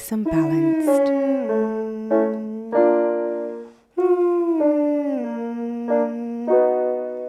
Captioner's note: piano scales continue; humming continues